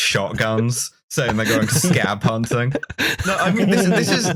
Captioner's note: laughter